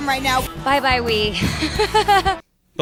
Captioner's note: laughs